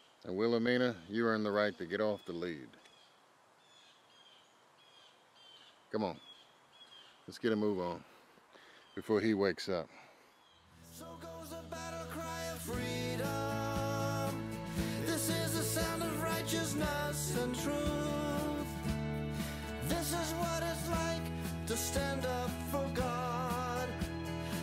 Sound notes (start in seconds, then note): 3.5 birds chirping; 18.5 upbeat music